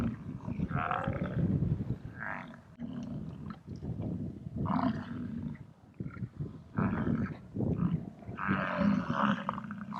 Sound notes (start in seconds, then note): 4.8 buffalo grunting